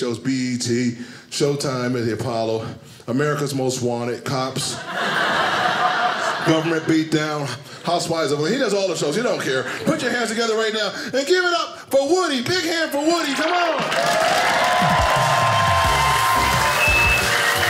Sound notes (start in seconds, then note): 4.7 audience laughing; 13.1 audience cheers; 14.5 upbeat music; 17.3 audience applauding